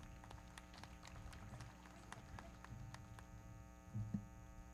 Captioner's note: everybody clapping